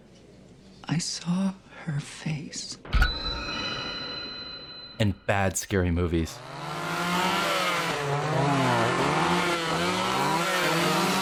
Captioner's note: high pitch noise; chainsaw whirring